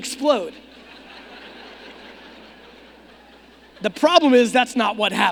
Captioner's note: audience laughing